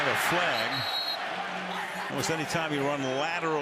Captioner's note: whistle